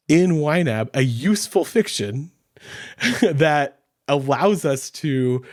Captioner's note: chuckles